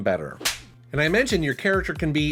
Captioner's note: hand slaps